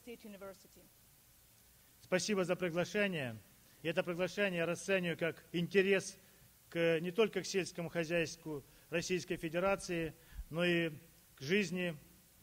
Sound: speaking russian

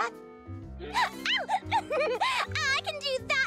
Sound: giggles

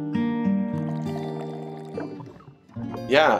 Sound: pouring water, water cooler bubbling

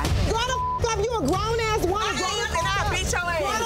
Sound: beep

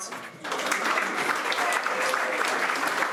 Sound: applause

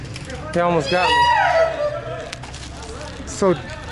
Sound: in the background screeching in enjoyment

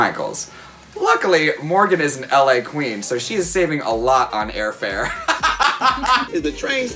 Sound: laughs

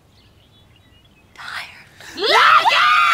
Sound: whispers

